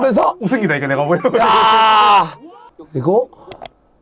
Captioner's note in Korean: 감탄